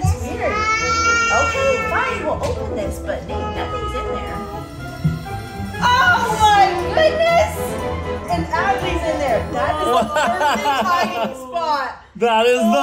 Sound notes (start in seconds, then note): 1.3 shouts; 9.8 laughs